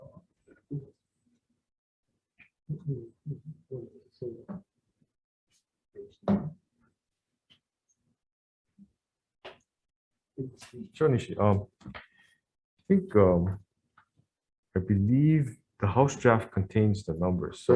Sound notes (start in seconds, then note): 3.6 indistinct conversation